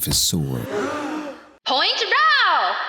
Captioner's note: crowd gasps